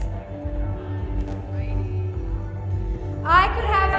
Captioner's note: group speaking quietly